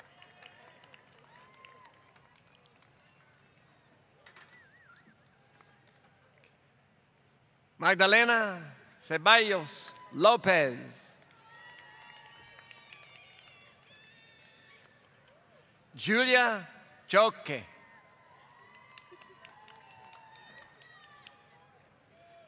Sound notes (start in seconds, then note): 0.0 applause; 17.9 applause